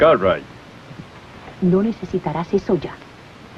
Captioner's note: whispers